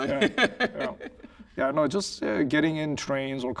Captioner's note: laughing